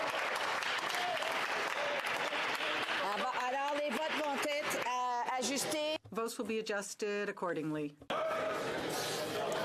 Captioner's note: cheering and Applause; speaking French